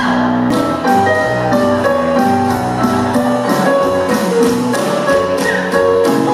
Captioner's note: upbeat piano music continues; tap shoes tapping rhythmically